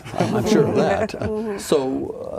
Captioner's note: laughing